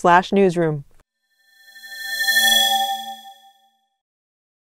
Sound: swoosh

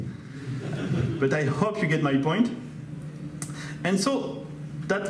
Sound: audience laughs

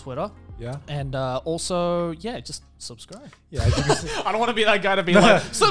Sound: laughs

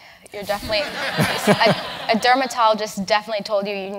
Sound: laugh

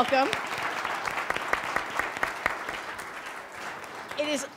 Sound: audience applauding

